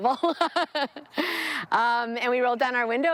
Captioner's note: laughing